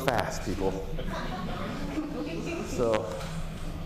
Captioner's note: laughter